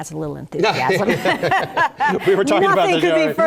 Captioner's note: laugh